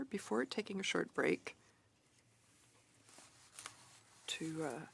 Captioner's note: speaking French